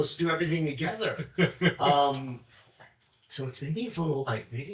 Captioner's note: chuckles